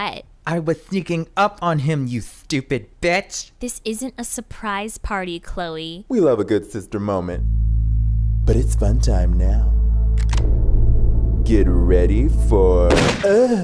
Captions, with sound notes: A I was sneaking up on him, you stupid bitch. O This isn't a surprise party, Khloe. B We love a good best friend moment. B But it's fun time now. (gun clicks) B Get ready for--